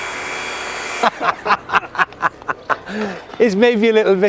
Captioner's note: laughter